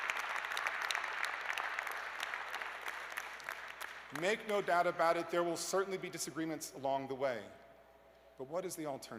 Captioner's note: applause